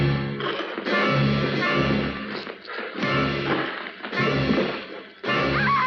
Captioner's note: sounds of fighting; kane screams